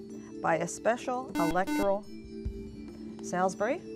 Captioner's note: buzzer